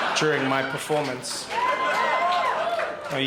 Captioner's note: crowd laughs and cheers